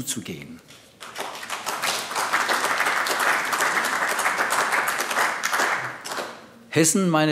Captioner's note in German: Beifall AfD